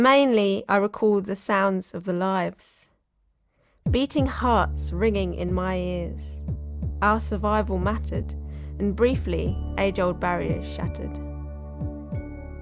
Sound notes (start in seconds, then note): 3.8 heartbeat sounds; 10.4 music plays softly